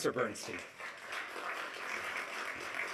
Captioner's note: applause